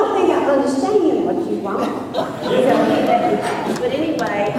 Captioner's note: laughter